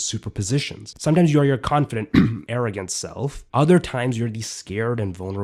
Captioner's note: cough arrogant